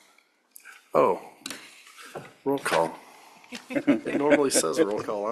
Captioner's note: laughter